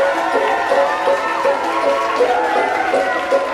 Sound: audience cheers; upbeat music

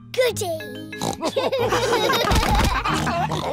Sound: oinks; all laugh

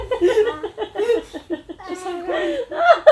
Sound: laughing

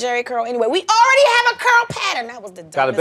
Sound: yelling

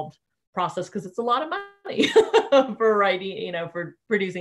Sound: laughing

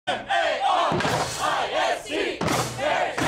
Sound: chanting

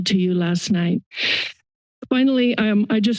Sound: inhales

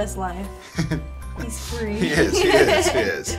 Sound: laughs; laughs

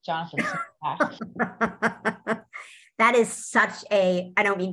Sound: laughs

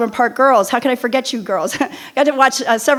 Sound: chuckles

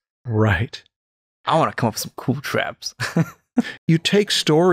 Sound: chuckles

